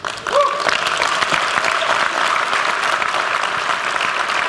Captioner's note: applause